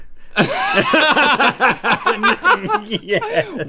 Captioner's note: laughing